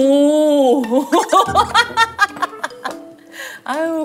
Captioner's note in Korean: 누가 들어도 장난기 가득한 웃음